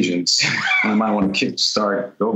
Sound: laughter

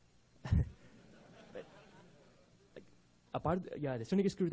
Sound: audience laughing

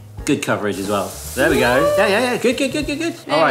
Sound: batter sizzling

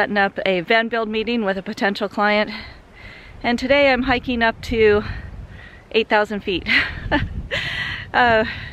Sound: laugh

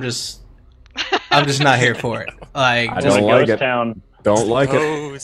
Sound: cast laughing

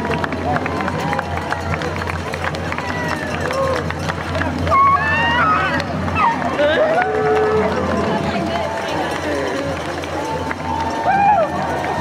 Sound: cheering

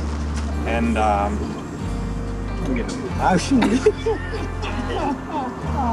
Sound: laughter

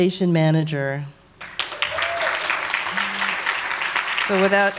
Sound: applause

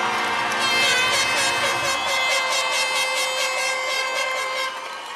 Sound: cheers and applause

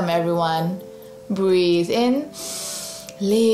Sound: breathes in deeply

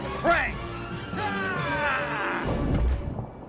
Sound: yells

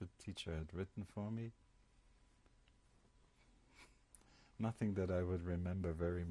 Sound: pauses for 3 seconds

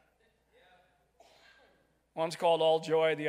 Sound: crowd

